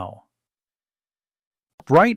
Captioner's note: pause